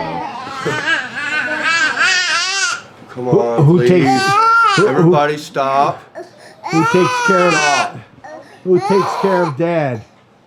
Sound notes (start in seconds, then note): 2.3 baby crying